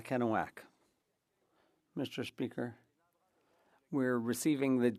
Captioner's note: speaking French